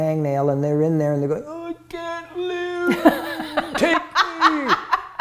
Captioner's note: laughing